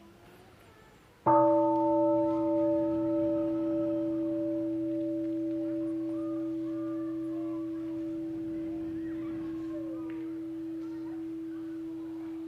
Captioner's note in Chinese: 鐘聲